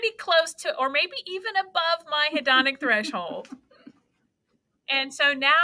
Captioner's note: laughs